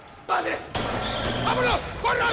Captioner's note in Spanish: Disparos